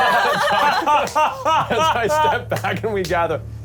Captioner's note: all laughing